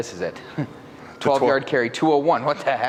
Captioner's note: chuckling